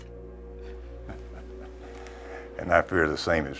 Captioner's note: chuckling